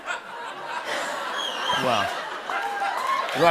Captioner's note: laughter